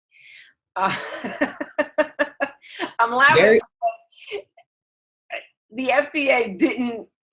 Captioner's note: laughter